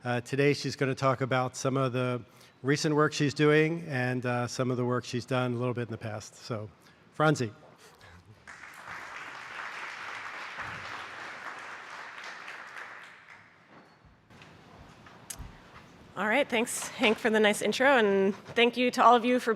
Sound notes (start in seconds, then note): 8.4 applause